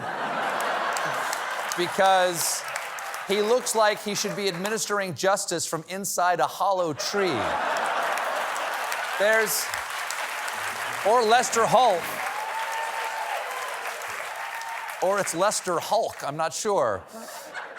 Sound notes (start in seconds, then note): 5.9 applause; 7.0 laughter